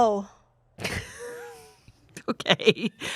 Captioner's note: laughs